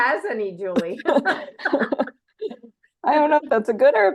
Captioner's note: laughing